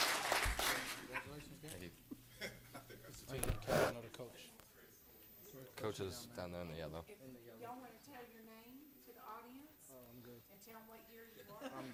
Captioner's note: applause